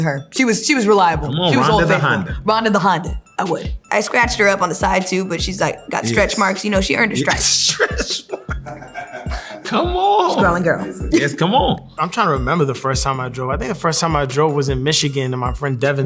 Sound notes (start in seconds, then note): 7.2 laughter